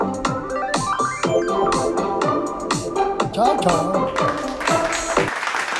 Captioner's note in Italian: Applauso